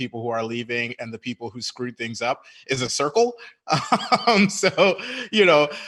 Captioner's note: laughing